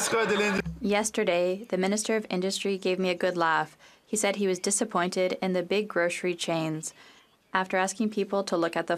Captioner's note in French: voix de l'interprète